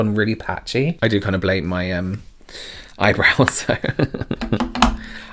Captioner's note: laughs